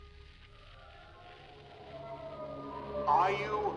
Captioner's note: electricity crackling; ominous music; demonic voice moaning